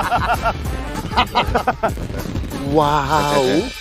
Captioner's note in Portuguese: Estourando